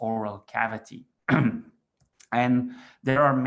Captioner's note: throat clearing